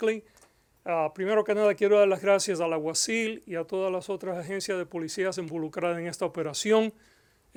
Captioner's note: in Spanish